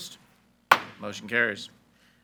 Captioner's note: gavel bangs